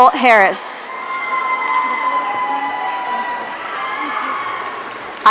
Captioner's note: audience cheering